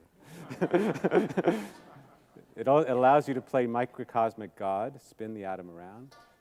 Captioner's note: laughs